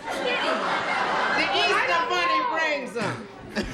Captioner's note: laughter